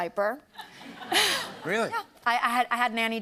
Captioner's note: laughter